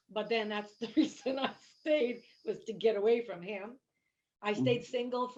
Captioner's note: chuckling